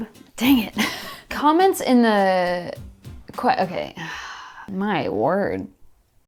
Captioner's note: sighs